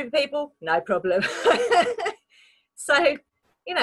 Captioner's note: laughs